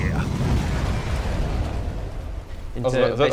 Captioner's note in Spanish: ¡boom!; ¡crash!; ¡bang!